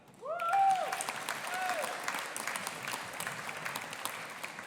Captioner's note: audience applauding and cheering